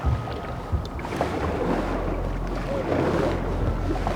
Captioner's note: water sputtering; water sloshing